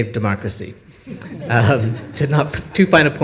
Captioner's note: audience laughs